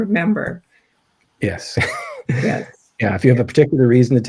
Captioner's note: chuckles